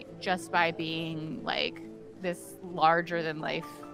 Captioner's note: none